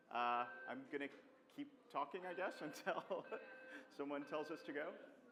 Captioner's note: laughs